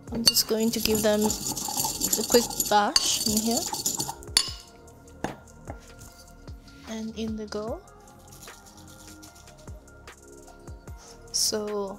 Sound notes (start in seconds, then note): 3.5 pestle scraping; 4.7 pestle clanging; 9.3 bright music continues